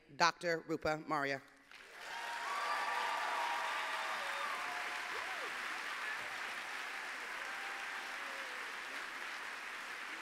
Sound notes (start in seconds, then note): 1.6 applause